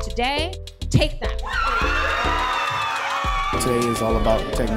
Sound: kids cheering

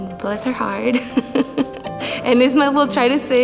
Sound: laughing

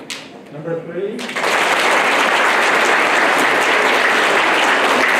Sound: applause

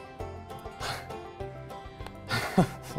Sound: scoffs; laughs

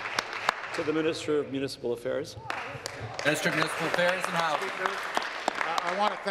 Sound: applause

